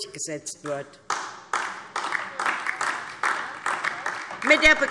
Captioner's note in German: Beifall DIE LINKE